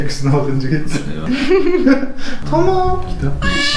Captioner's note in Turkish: Gülüşmeler